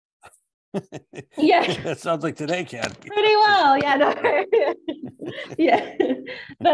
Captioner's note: laughing